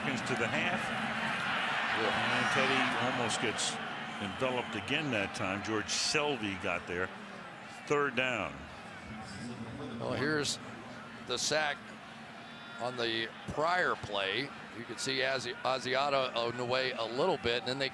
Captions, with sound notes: George Selvie got there. Third down. [pa announcement] Well, here's the sack on the prior play. You could see Asiata on the way a little bit. And then they come right back and catch the pressure one more time. There it is.